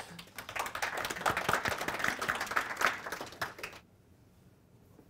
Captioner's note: audience applauding